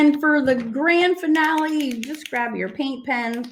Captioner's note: paint pen rattling